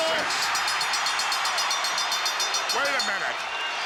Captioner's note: crowd cheers; bell rings